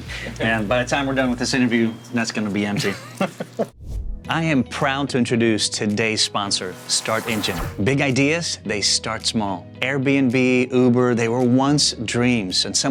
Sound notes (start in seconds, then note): 2.7 laughs